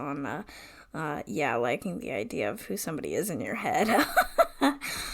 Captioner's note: laughs